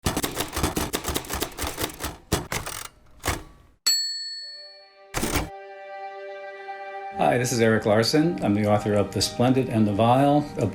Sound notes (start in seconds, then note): 0.0 typewriter clicking; 5.1 typewriter bell rings; 5.2 dramatic music